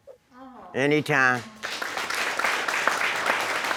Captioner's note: audience applauds